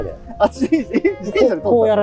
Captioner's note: laughing